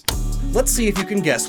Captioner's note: click